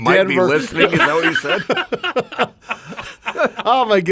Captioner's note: men laugh